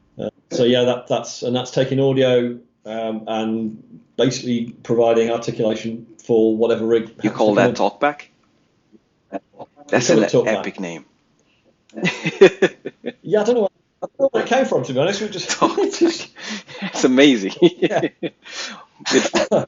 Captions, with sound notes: So yeah, that's taking audio and basically providing articulation for whatever rig. - You call that talk back? - That's what I'm talking about. - That's an epic name. - Yeah, I don't know where that came from to be honest. We just.. [Laughs]